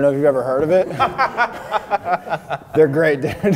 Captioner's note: both laughing